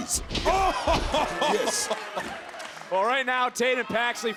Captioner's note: Corey exclaims